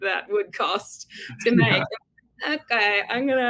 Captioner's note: giggles